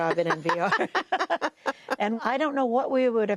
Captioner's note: laughter